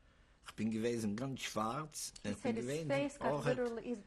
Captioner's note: speaking yiddish